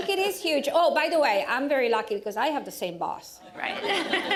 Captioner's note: laughter